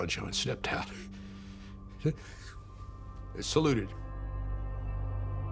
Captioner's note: voice breaking